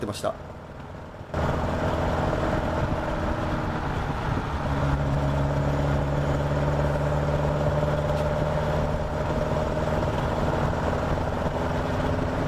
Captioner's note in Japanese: エンジン音